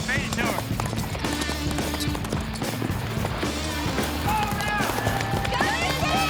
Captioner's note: fast hoofbeats